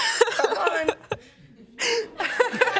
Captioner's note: laughter